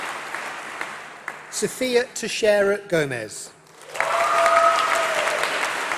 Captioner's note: applause